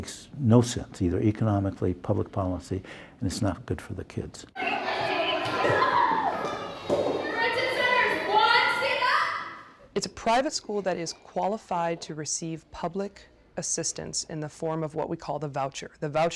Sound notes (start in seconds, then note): 4.5 kids chattering